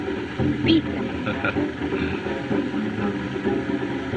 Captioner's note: chuckles